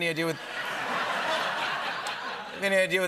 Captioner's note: laughter